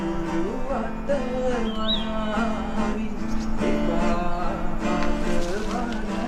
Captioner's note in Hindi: पक्षी चहकते हुए